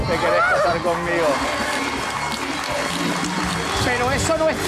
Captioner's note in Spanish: Aplausos